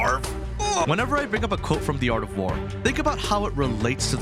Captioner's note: groan